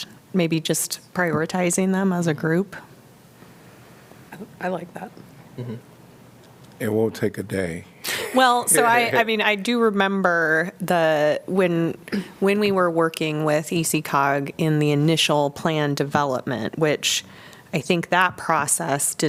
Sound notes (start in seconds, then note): 8.0 laughter